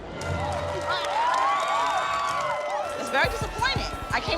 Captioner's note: cheers and applause